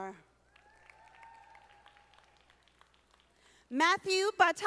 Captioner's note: audience applauding